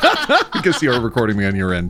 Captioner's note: laughing